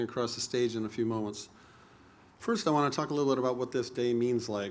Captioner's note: none